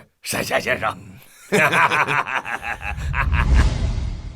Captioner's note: laughs triumphantly